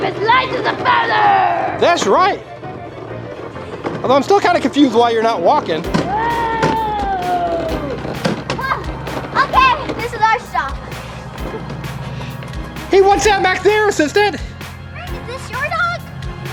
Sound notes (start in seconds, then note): 6.5 Frank roars